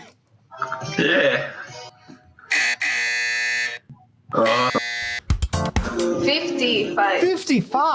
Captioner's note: buzzer rings